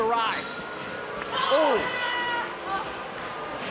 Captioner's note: crowd boos